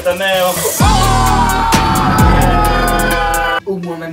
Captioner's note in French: musique trap; cris de victoire